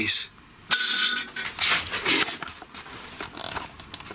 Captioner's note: metallic clattering